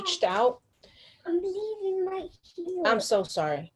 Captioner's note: background Chatter